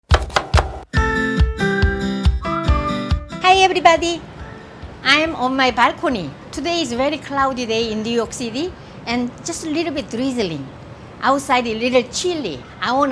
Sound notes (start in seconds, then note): 0.0 chopping; 0.4 bright upbeat music